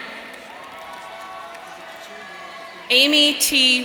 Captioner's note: audience cheering